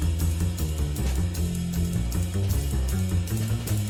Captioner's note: none